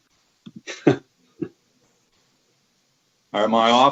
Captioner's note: man chuckles